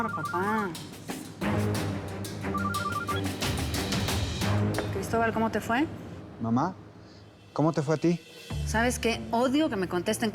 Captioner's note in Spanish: Suena el teléfono